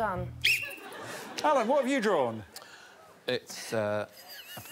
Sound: Alex blows whistle

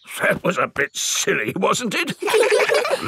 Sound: in teddy's voice; in normal voice; kids laugh

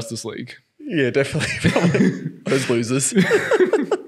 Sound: laughing

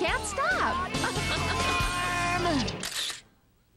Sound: laughter; camera Shutter Clicks

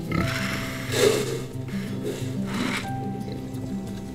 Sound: pig feed being poured into trough

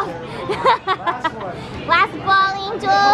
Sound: laughing

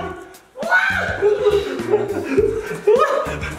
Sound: screams

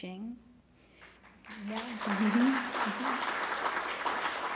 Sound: applause

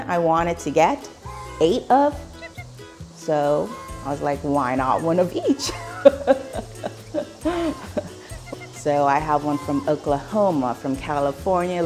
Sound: laughing

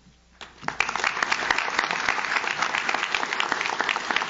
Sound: audience claps

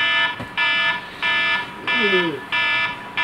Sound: alarm clock sounds

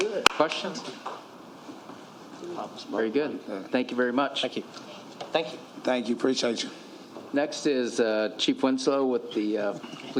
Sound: applause

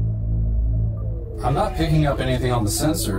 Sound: electronics bleeping faintly

